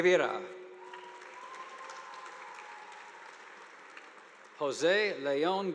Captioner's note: audience applauding